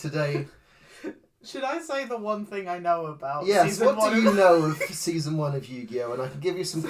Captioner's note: laughs